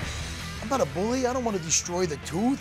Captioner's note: none